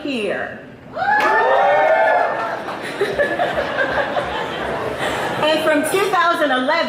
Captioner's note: speaker laughs; audience applauds